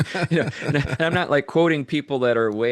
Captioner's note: laughing